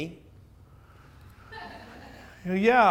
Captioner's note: audience laughs